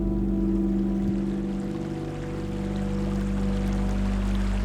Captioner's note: stream flowing